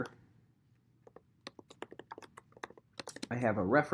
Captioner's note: keyboard clacking